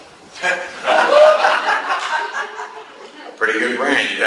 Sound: class laughs

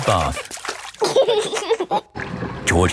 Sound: giggling

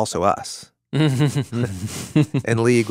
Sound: laughing

